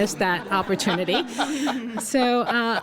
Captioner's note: laughter